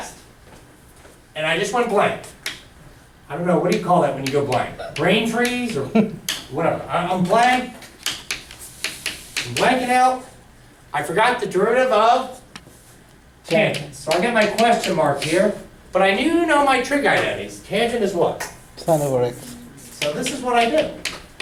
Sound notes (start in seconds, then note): 18.5 voiceover